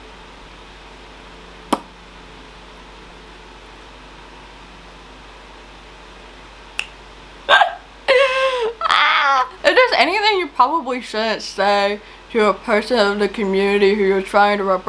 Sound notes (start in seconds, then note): 6.8 fingers snapping; 7.5 laughing